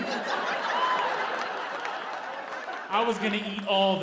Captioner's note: audience laughing